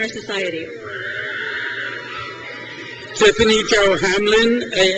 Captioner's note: crowd cheers